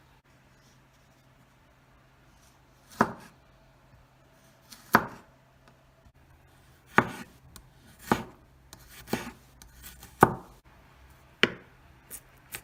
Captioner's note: chopping🔪